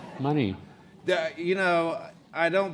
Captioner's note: laughing